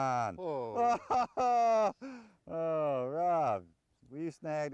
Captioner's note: laghter; laughter